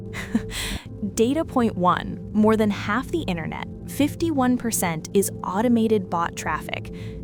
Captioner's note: laughs